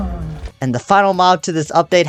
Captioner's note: moans